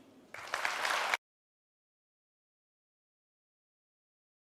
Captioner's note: audience claps